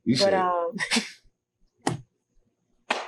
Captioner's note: both laugh